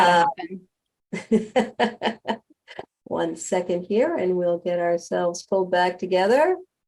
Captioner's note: laughs